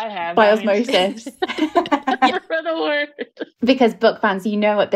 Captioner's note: laughing